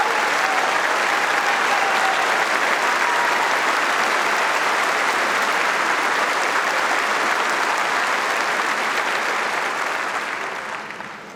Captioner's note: audience applauding